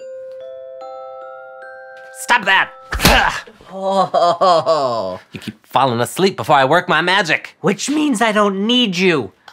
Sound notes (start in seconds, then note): 0.0 lullaby; 3.2 grunts